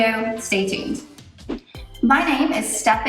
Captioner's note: upbeat music; air whooshes